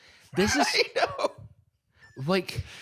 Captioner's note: laughing